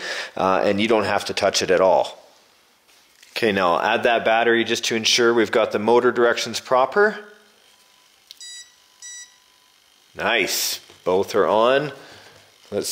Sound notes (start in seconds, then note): 7.6 beeping